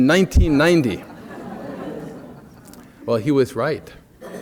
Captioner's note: laughter